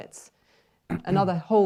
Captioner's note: clears throat